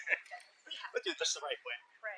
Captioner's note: laughter